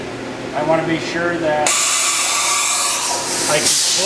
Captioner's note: machine hisses